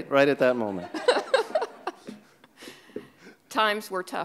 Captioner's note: laughing